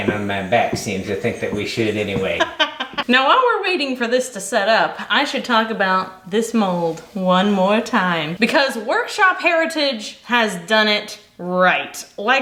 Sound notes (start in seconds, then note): 2.4 laughing